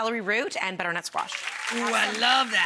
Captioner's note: audience applause